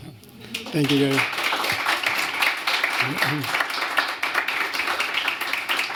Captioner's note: applause